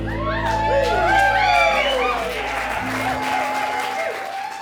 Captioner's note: crowd cheering